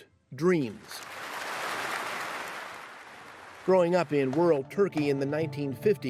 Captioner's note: applause